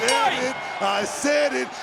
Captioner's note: bell rings